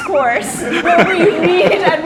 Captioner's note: everyone laughs